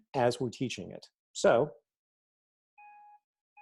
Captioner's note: beeper counting down